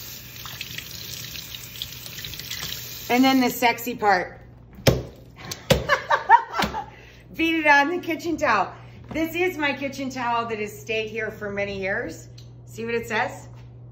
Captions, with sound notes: and then the sexy part. (leeks thudding) (Rachael laughing) Beat it on the kitchen towel. This is my kitchen towel that has stayed here for many years. See what it says?